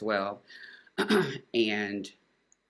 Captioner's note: clearing throat